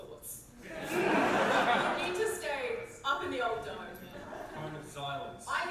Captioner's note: audience laugh